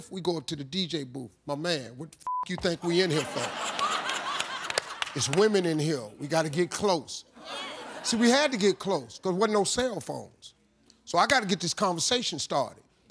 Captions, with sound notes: we going to the DJ booth, "My man, what the (beep) you think we in here for? It's women in here, we gotta get close." See we had to get close cause wasn't no cell phones. So I got to get this conversation started.